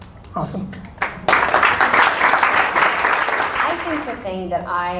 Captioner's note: audience applause